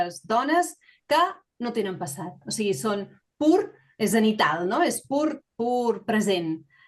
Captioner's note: continues speaking in Catalan